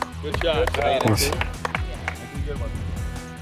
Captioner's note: apapplplauausese